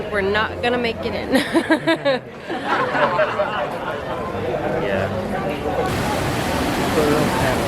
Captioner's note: laughter